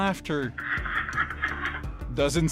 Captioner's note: laughing on recording